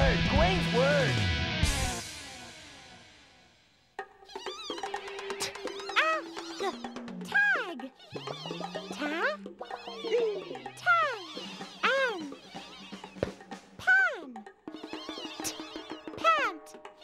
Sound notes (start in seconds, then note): 9.4 making "n" sound; 14.8 making "t" sound